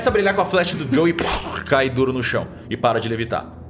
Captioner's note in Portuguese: Corpo caindo